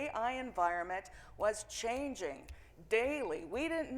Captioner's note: fingers clicking